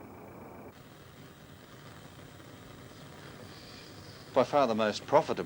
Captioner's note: Static